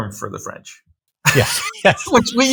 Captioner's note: laughing; laughs